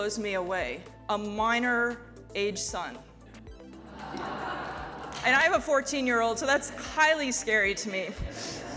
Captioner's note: laugh